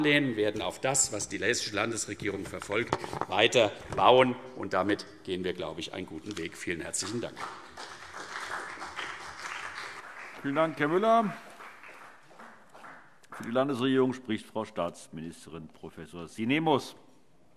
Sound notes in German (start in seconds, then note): 7.0 Beifall CDU und BÜNDNIS 90/DIE GRÜNEN